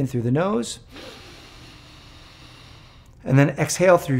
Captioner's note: inhaling